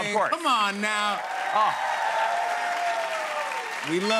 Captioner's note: cheers and applause